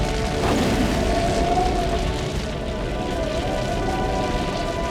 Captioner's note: fire cracking